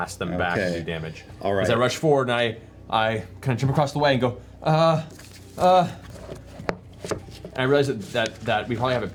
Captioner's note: hesitant noises